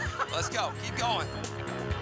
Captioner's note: laughs